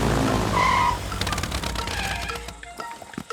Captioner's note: tires screeching